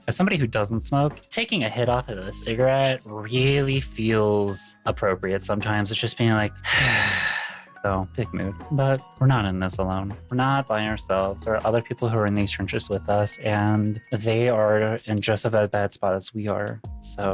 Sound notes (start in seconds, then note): 6.6 heavy sigh